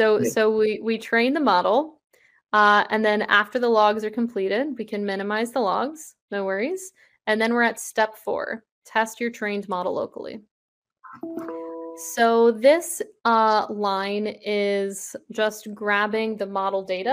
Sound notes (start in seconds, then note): 11.1 chimes